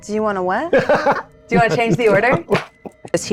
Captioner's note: laughs